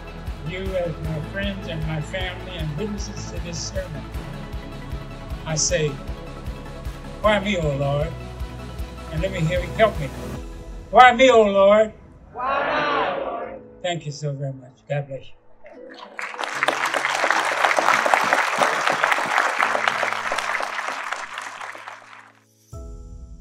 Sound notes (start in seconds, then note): 12.3 crowd; 15.9 applause